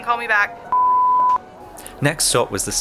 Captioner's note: phone beeping